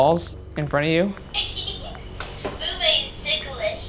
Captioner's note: Boo Buddy laughs